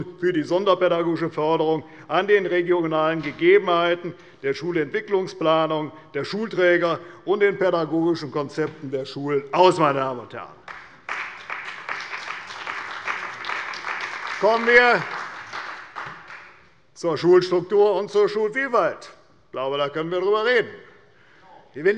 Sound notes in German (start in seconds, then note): 10.6 Beifall bei der CDU und dem BÜNDNIS 90/DIE GRÜNEN